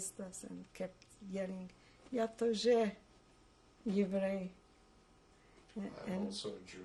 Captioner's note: russian